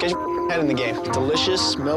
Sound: beep

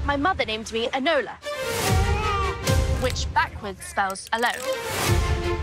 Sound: baby crying; dramatic music

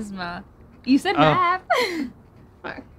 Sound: laughs

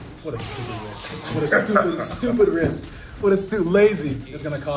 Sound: laugh

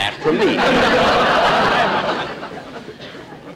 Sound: audience Laughing

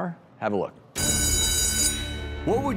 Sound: school bell rings

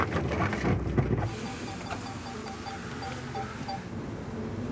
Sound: drone beeping

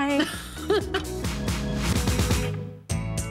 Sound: laughs

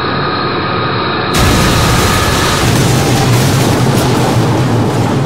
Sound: blast

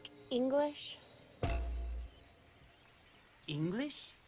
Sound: thud

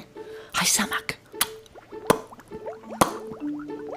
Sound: smacks lips like a fish

